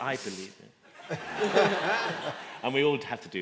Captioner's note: laughter